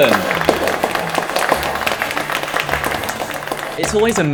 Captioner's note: clapping